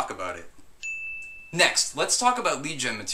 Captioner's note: smile with ding